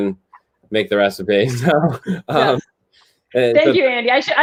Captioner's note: laughter